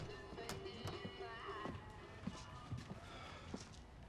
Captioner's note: footsteps falling